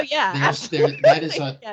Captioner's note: laughing